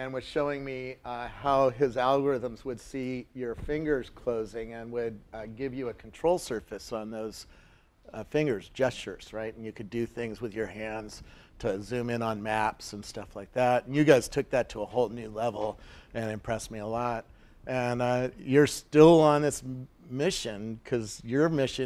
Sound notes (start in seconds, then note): none